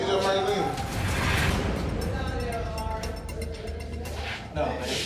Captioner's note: indistinct chatter